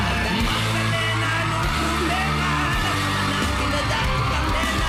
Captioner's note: audience cheering